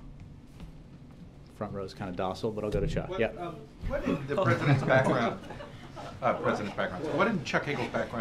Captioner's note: laughter